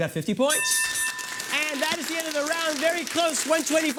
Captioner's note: bell